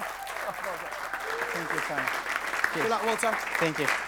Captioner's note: audience applauding